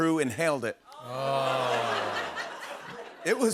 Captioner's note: laughter